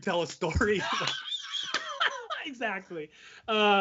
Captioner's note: laughing